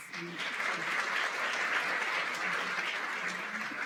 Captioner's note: applause